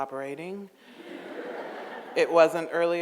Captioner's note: audience laughs